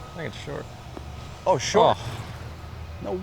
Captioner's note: groans